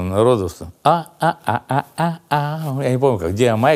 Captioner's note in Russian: напевает